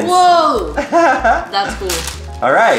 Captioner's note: man laughs